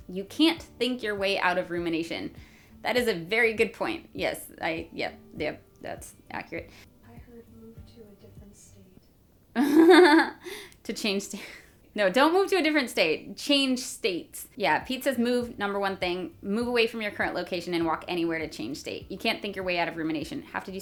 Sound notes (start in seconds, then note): 9.6 laughs